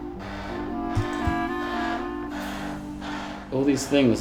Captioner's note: whirring